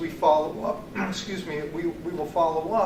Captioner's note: clears throat